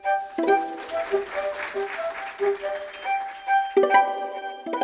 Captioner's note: applause